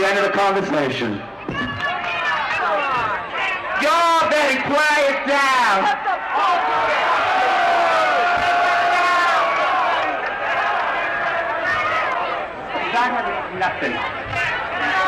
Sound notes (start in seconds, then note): 3.6 crowd yelling and booing